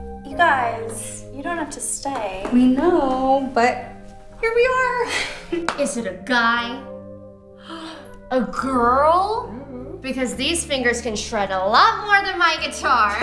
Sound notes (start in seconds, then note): 7.6 gasps